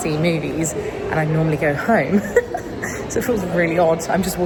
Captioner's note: giggles